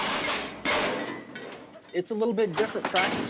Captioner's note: gates clanging